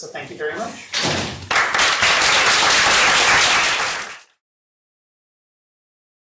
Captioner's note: applause